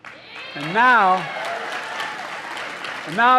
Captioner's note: applause